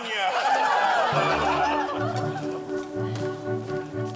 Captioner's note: laughing